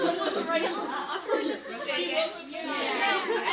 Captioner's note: laughter